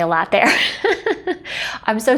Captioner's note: laughing